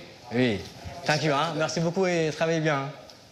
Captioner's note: speaks foreign language